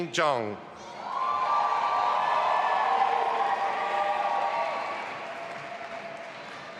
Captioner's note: audience applauding and cheering